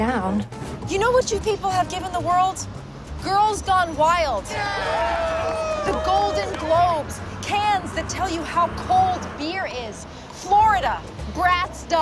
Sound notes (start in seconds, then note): 4.5 cheering